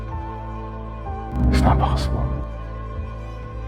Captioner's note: voiceover